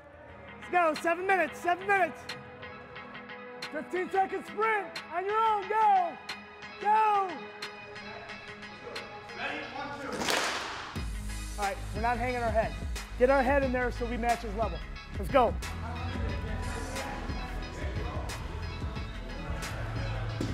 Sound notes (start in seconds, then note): 7.3 upbeat music; 10.0 athletes clap; 17.0 dramatic techno music